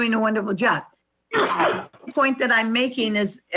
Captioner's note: coughs